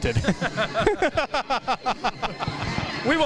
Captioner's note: laughter